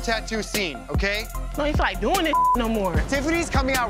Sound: beep

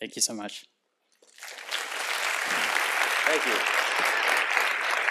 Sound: applause

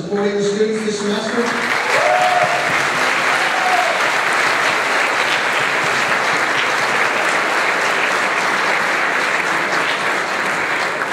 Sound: clapping and cheering

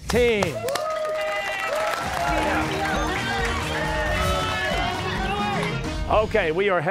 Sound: cheers and applause

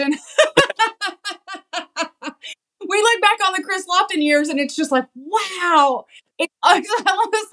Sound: laugh

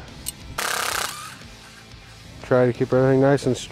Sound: mechanical whirring

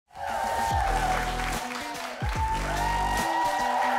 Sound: audience cheering

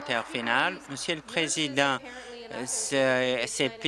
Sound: applause

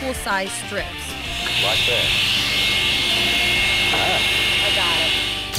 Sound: whirring noise

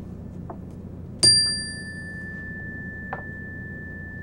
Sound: bell rings

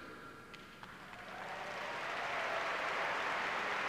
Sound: clapping

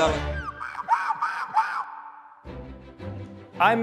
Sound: seagull cawing; light whimsical music

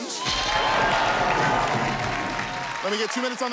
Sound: cheers and applause

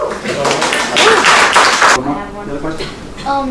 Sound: applause

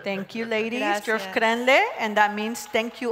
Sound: speaking Zapotec

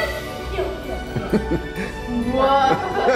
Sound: laughs

